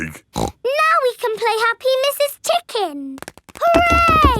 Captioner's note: snorts